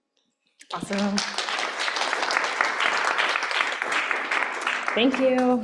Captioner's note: applause